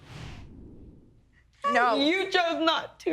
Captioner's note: sobbing